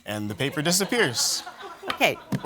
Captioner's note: laughter